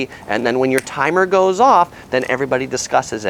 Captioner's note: snaps finger